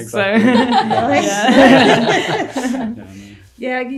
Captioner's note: everyone laughing